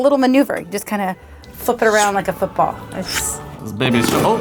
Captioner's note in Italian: suono di palla doppio